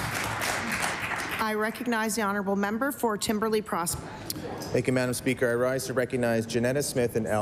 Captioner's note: applause